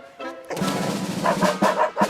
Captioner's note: barking